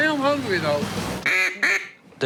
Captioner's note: duck call